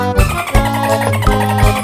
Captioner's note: phone ringing